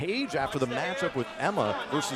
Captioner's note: crowd chatter